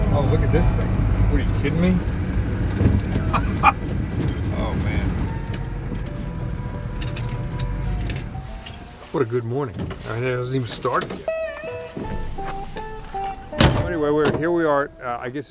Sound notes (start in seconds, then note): 3.0 laughs